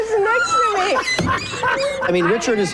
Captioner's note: laughs